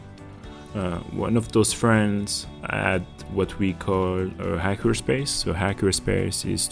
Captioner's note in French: français